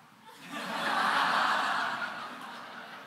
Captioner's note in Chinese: 笑聲